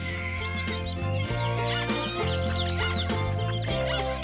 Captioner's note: squeaking